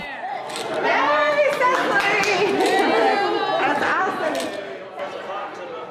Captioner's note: cheering and clapping for participant